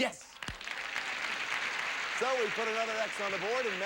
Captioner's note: audience applauding